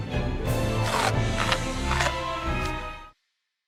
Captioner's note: bite munch munch